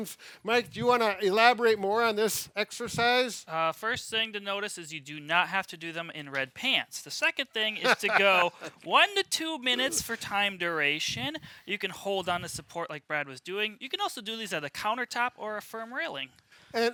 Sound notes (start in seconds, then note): 7.8 laughing